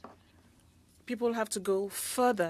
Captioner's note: speaking French